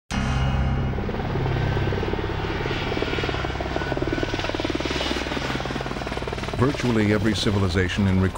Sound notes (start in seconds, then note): 0.2 helicopter blades humming; 6.8 voiceover